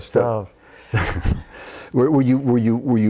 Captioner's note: laughs